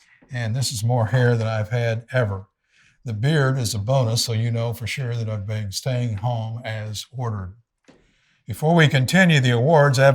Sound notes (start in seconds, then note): none